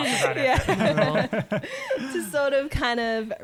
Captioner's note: laughter